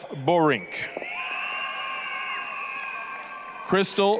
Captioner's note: applause, cheering